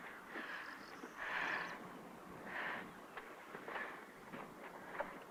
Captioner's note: breathing heavy